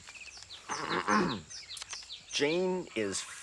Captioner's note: Roger clears his throat